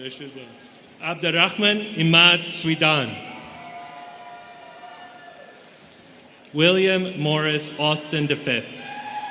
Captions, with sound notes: Pressures off. Abderrahman Imad Sweidan. (students cheering) William Morris Austin V.